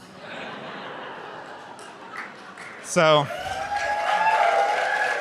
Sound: audience laughs and cheers

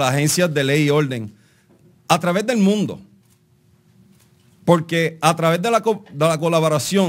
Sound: speaking Spanish; speaking in Spanish

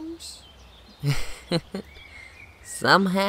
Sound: chuckles

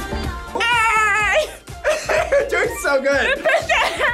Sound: laughs

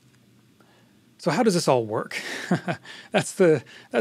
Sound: laughs

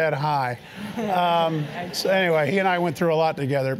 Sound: laugh

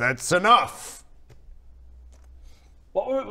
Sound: dead silence

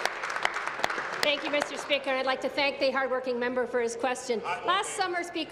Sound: applause

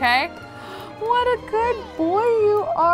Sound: gasps

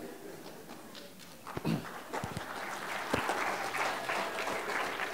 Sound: applause

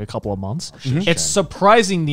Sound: murmuring

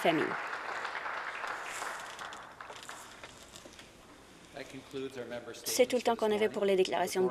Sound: some Applause

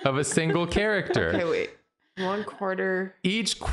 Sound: Jarina laughing

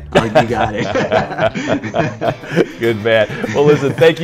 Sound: laughing

